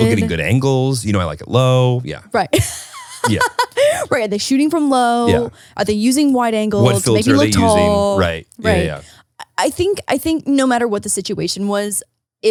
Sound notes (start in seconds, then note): 2.6 laughing